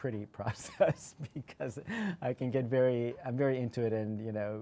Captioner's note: laughs